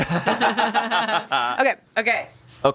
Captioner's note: all laughing